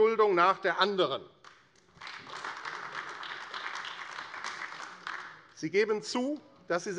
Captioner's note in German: Beifall AfD